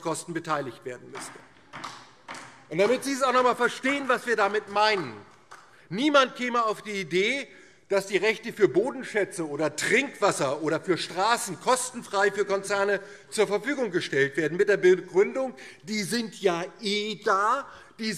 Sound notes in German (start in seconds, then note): 2.8 Beifall DIE LINKE